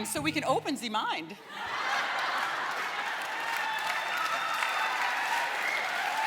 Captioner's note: laughter and applause